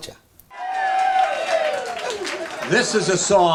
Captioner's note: guests applauding